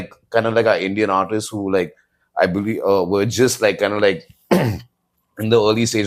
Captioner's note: clears throat